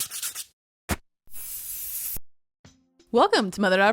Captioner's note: pencil scratching